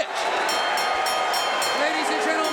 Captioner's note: bell ringing